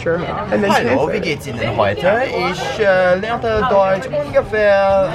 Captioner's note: speaks in German